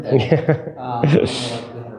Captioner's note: chuckling